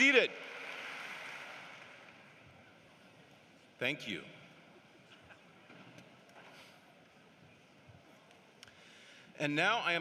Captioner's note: applause